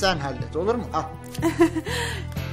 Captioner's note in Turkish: gülme sesi̇